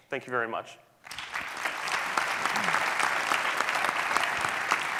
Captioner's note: audience clapping